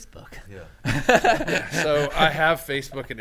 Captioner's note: men laughing